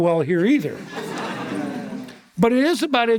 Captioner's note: audience laughter